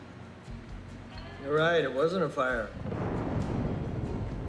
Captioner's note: thunder